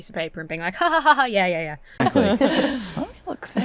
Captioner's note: laughs fakely